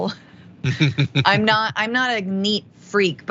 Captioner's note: laugh